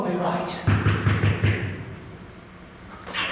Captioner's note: knocking